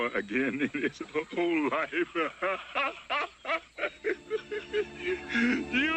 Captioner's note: laughs